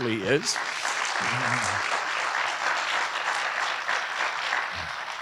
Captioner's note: audience applauding